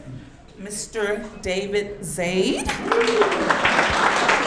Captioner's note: audience clapping